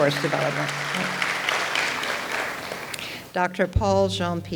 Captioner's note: audience applauds